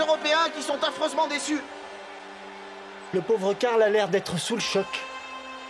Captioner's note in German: beifall